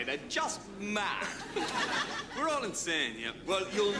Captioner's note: audience laughs